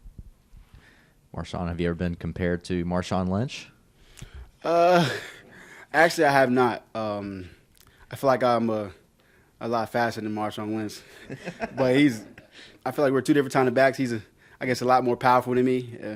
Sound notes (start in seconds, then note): 11.1 reporters laugh